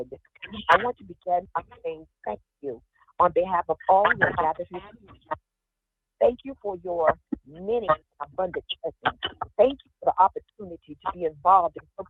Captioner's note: ~audio distortion~